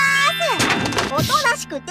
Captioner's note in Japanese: 殴る音